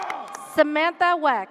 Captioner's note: audience cheers